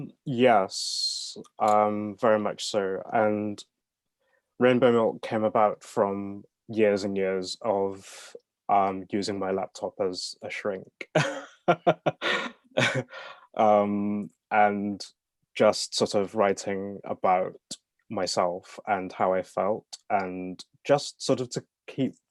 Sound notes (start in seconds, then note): 11.2 laughs